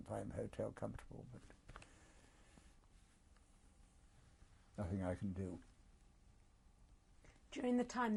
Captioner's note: pauses for 3 seconds